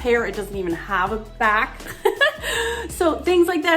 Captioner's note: laughs